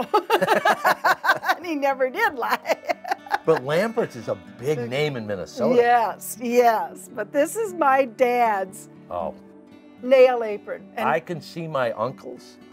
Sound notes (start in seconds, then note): 0.0 both laughing; 2.3 laughing